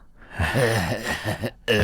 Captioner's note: laughs